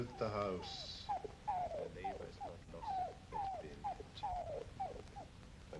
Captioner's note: dog whimpers